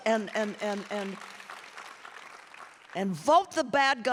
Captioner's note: audience applauding and cheering